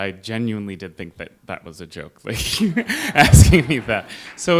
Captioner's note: laughs